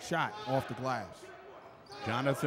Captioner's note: yelling